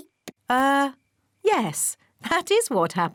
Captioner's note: none